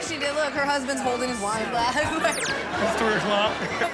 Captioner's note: chuckles; laughing